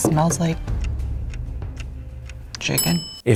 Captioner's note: clock ticking